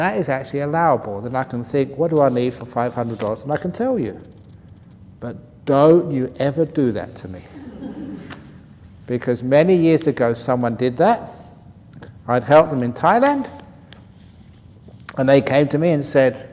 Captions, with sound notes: That is actually allowable, and I can think what do I need for $500 and I can tell you. But don't you ever do that to me. [laughter] Because many years ago, someone did that. I'd helped him in Thailand and they came to me and said,